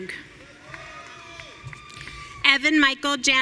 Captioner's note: audience cheering